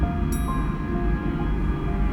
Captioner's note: ding